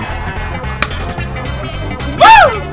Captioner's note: clap!